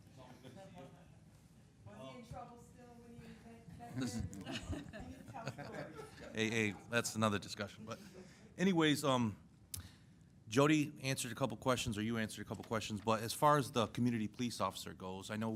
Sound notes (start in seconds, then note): 3.8 laughter